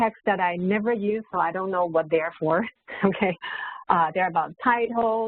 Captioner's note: laughs